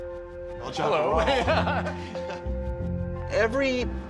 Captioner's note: laughs